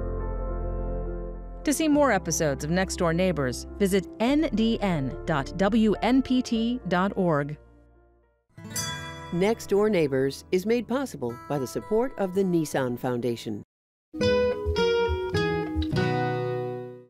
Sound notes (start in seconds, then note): 8.6 bell chiming; 14.2 upbeat music